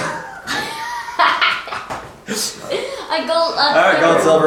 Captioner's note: laughing